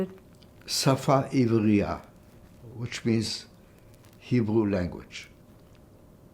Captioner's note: hebrew